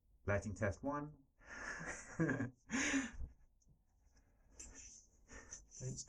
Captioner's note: laughing